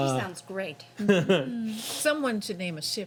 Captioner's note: chuckles